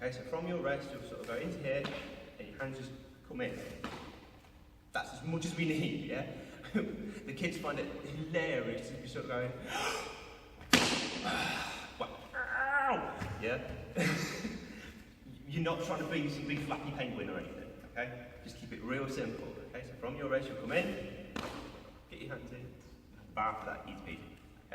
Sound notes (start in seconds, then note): 10.6 big slap noise on legs; 12.0 ow!